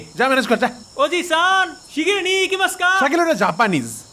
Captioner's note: speaks japanese